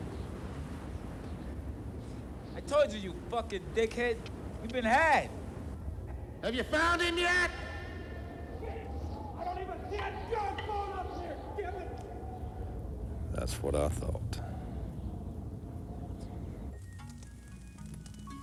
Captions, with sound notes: (wind howling) - I told you, you fucking dickhead. You've been had. - Have you found it yet? - I don't have a goddamn phone out here, dammit. - That's what I thought. (wind howling) (gentle music)